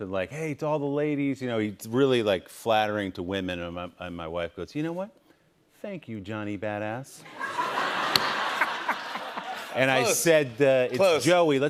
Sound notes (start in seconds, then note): 7.2 laughter